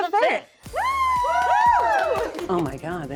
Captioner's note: all cheering